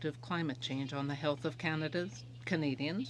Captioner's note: speaking in french